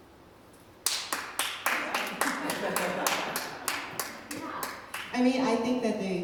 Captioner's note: clapping